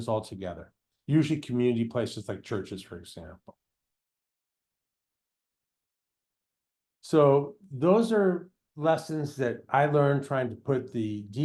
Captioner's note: pause